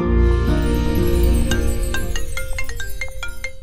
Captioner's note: Phone ringing